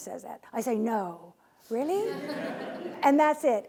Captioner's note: laughing